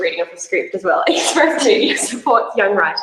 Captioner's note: laughs